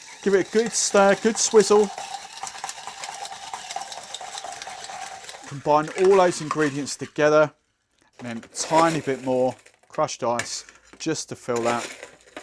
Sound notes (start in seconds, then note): 1.9 ice clinking in glass